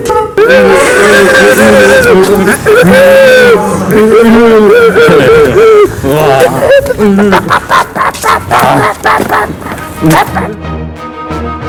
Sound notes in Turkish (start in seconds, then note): 0.5 t-rex sesleri̇; 5.4 horoz kavgası sesleri